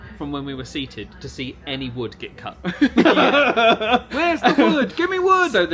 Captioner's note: laughing